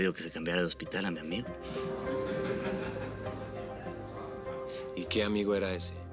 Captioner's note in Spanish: Comentarios y risas